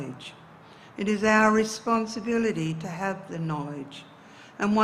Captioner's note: speaks in indigenous dialect